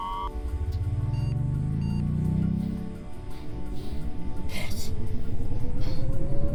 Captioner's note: machinery humming